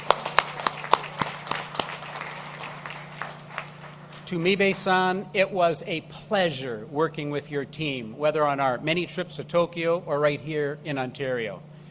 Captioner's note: applause